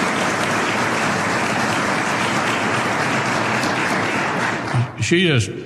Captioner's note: applause